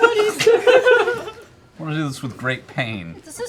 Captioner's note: laughter